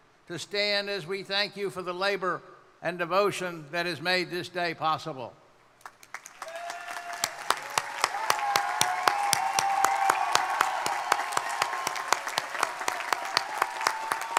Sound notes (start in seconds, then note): 7.8 crowd applauding; 7.8 crowd cheering